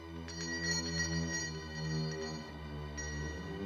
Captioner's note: bell ringing